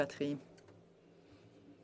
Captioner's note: speaking FRENCH